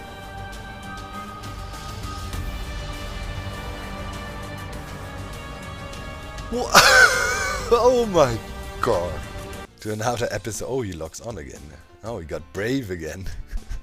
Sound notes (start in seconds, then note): 0.1 intense music; 6.5 laughs